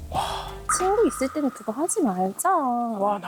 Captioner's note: pride hurt sound effect